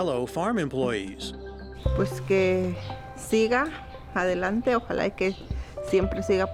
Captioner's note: speaks spanish